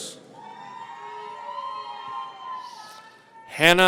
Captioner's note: audience cheering